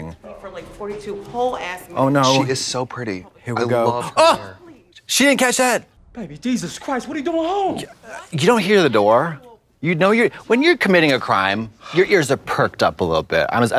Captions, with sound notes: - I've had to pee for like 42 whole ass minutes. - Oh, no. - She is so pretty. - Here we go. - I love her hair. (gasps) - She didn't catch that? - Baby Jesus Christ! What are doin' at home? - What? - You don't hear the door? - What the actual fuck Jacques? - When you're committing a crime, your ears are perked up a lil bit.